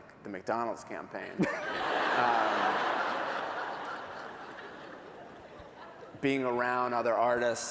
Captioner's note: laughter